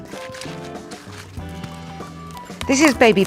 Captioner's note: leave crunching